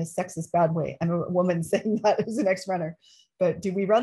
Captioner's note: laughter